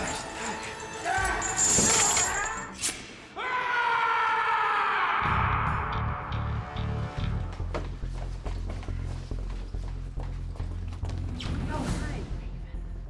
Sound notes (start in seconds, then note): 0.1 yelling; 2.3 shears snip; 3.3 Grigori screams